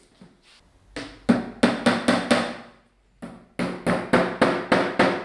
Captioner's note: hammer banging